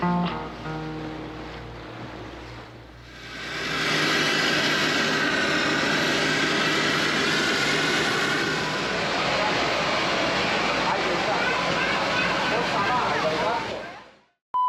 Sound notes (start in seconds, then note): 3.6 airplane engine revving